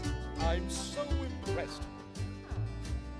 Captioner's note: chattering